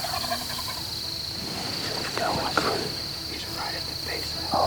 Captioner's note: whispering